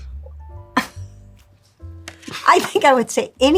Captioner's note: Sally chuckling